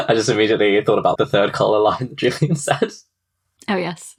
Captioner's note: laughing